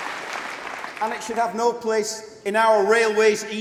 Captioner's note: applause